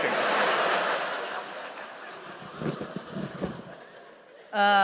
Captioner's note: laughter